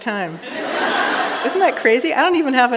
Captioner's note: audience laughing